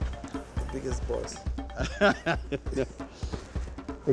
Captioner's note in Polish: śmiech